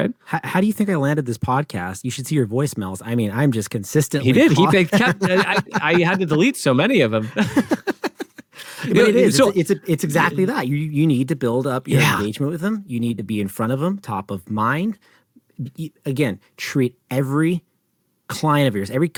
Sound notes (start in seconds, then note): 7.2 both laugh